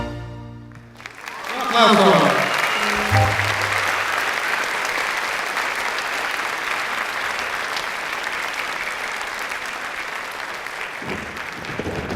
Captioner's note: applause